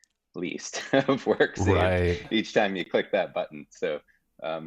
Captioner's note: chuckling